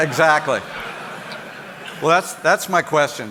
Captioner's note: audience laughing